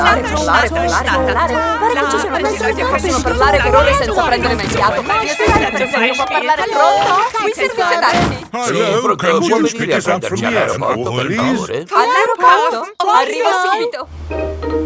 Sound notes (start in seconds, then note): 5.1 cellphone ringing